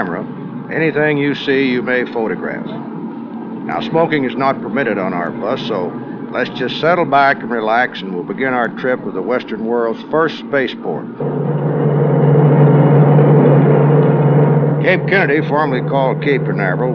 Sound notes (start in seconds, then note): 11.4 bus engine noise